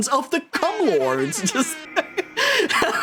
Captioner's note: airhorn; laughs